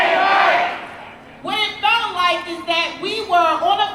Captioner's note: crowd